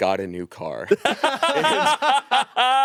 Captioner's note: all laughing